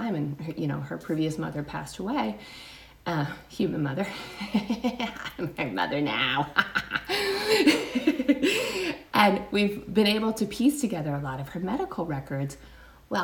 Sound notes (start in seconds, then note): 4.1 chuckles; 6.1 laughs